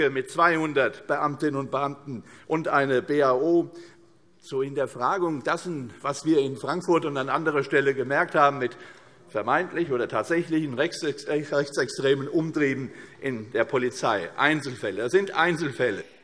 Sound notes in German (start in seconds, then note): none